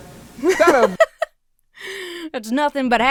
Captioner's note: laughs